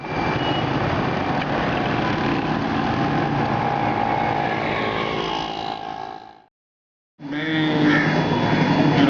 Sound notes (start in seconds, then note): 0.0 noise of cars passing